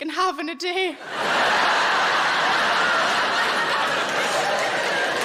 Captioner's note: audience laughing